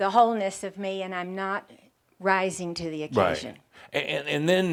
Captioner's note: none